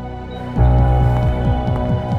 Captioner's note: Door opens